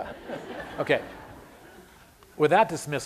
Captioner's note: laughter